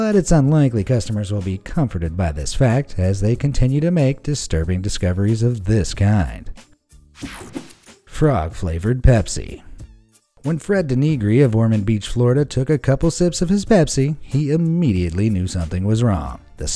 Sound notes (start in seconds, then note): 7.2 image whooshing